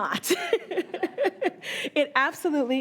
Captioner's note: laughing